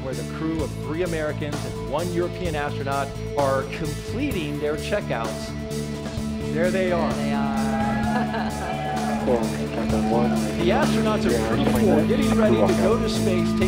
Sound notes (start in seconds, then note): 7.3 laughing; 7.3 audience cheering